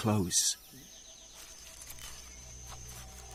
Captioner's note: man speaking foreign language